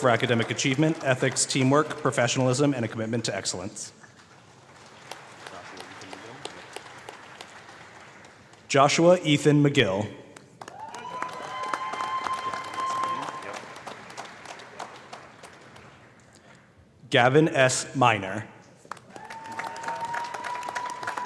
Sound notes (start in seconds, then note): 10.3 applause